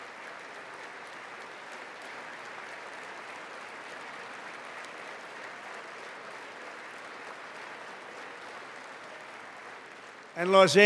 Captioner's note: applause